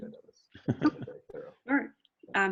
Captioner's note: laughing